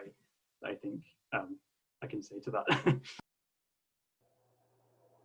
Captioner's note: laughter